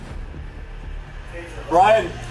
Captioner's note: suspect screaming